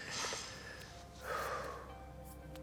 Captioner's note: Oscar sighs; ominous orchestral music plays